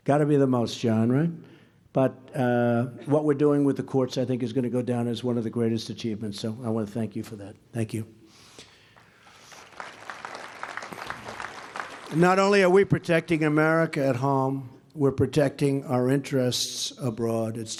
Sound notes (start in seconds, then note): 8.9 applause